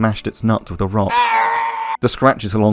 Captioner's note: testicle-less rat sounds